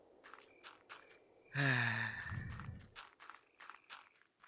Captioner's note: exasperated sigh